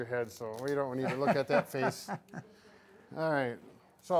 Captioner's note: laughing